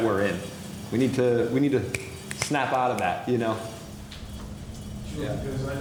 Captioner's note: snaps